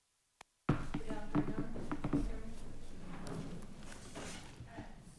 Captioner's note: computer thudding; speaking quietly